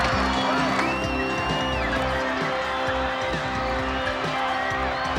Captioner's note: crowd cheering